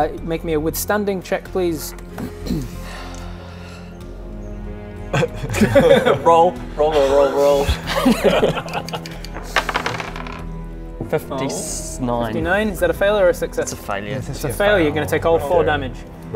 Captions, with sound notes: make me a withstanding check please *wishful laugh* roll, roll roll roll roll 59 59, is that a fail or a success? it's a failure - it's a fail, you're gonna take all 4 damage - that's actually a fail